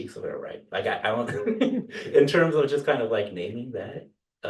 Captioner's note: laughter